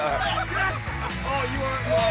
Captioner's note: cheering